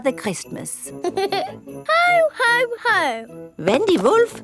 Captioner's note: giggles